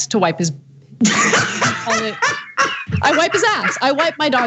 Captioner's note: laugh